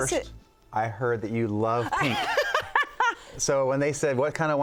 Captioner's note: laughing